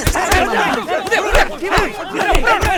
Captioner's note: commotion ensues